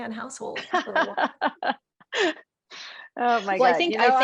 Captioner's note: Amy laughs